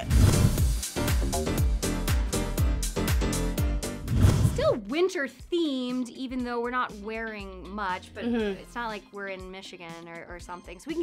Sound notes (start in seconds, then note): 0.2 upbeat music; 4.0 whoosh